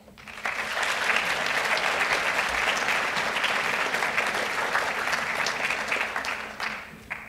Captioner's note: applause